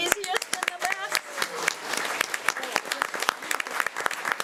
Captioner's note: crows applauding